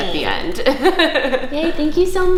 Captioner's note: laughter